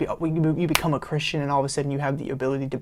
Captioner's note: fingers snap